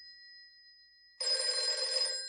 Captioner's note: ringing